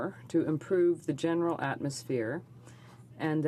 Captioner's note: speaking french